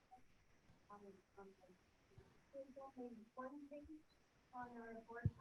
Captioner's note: people chattering